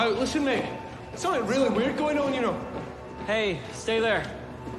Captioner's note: none